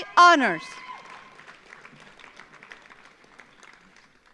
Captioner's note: audience applauds